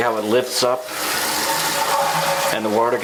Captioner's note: toilet flushing sound